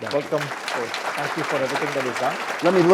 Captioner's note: audience clapping